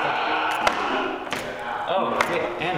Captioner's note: crowd yelling